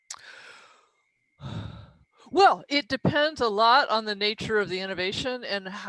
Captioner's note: sighs